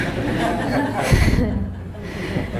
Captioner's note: laughter